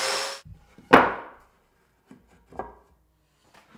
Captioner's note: board thuds